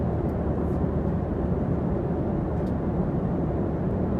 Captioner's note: engine roaring